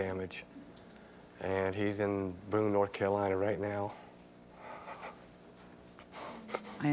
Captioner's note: crying